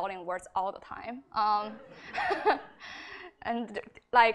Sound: laughter

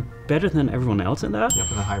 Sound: ding

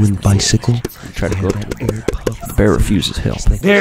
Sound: pulling tape

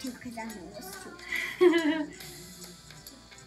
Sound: laughing

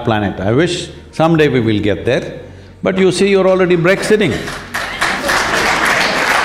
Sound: applause

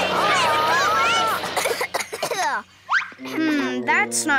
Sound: ponies coughing

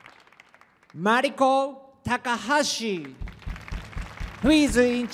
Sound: applause

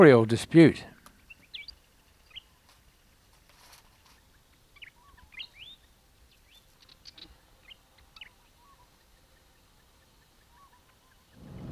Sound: bird sounds

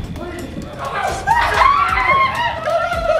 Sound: screaming

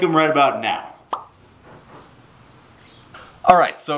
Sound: popping

